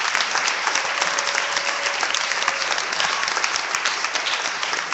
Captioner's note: clapping